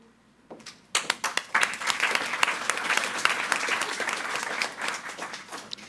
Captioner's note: audience applauding